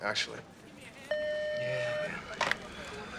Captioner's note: phone beeps